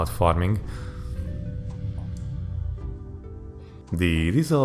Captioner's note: rumblerumbleRUMBLERUMBLERUMBLE